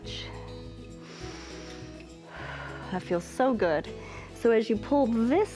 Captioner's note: inhales and exhales